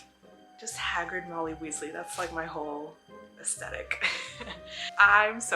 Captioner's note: laughs